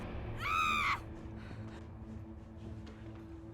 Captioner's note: Jane screaming